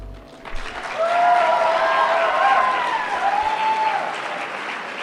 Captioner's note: applause